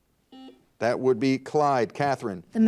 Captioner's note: buzzer dings